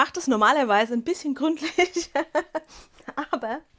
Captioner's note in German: Gelächter